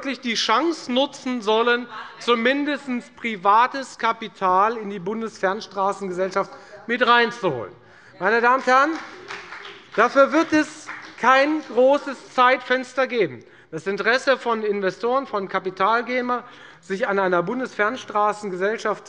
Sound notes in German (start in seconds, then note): 8.2 Beifall bei der FDP